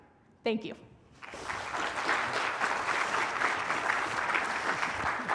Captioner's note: applause